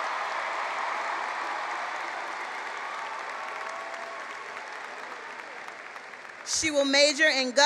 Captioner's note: cheering and applause